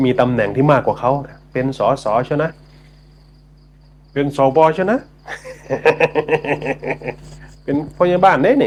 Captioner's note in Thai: เสียงหัวเราะ